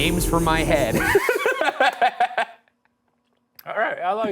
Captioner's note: laughing